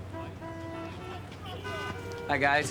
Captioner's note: horns honking